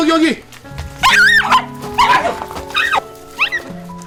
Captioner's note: whimpering